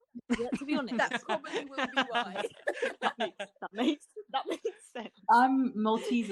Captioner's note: laughter